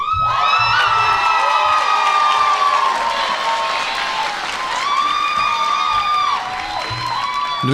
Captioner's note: applause